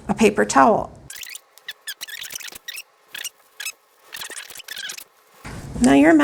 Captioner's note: video fast-forward trilling